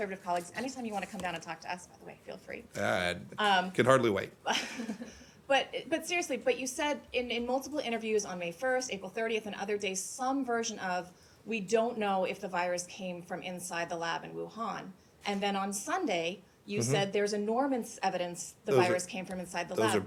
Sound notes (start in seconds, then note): 4.4 laughter